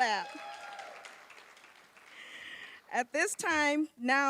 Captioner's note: applause